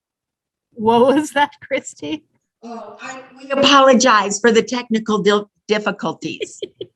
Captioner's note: laughing